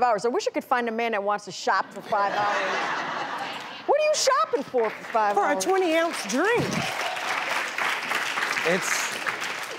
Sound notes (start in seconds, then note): 1.9 crowd laughs